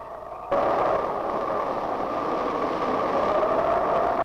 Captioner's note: whistling and wind rushing; wind rushing